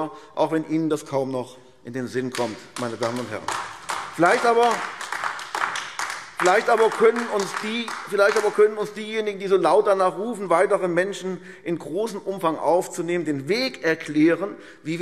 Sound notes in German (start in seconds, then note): 5.4 Beifall AfD